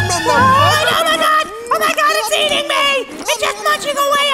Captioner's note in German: Schreie